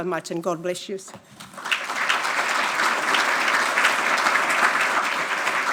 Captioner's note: audience applauding